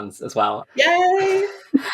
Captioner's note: laughs